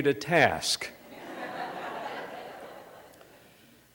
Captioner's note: laughter